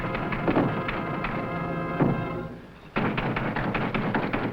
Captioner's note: window clanking; tense music; knocking on door